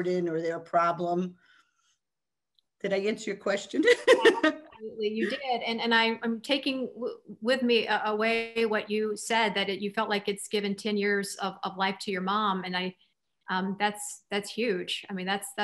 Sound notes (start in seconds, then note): 3.8 laughs